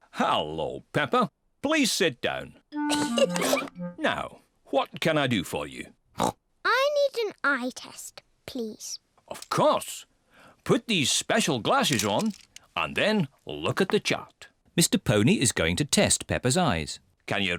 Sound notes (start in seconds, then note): 3.0 laughs; 6.2 snorts